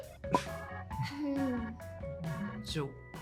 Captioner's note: laughter; chuckles